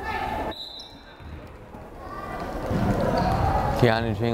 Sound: whistle blows

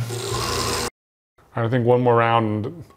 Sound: blender buzzing

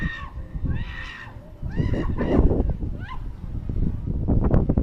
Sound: scream from zipline rider

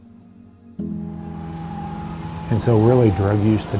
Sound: car engine running

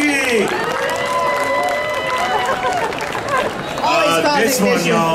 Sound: audience cheering

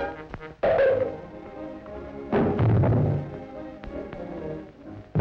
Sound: crashes and bangs

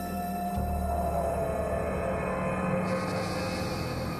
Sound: wolf Howling

